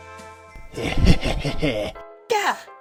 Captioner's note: evil laughing